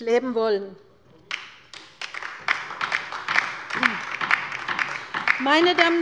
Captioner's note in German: Beifall bei der LINKEN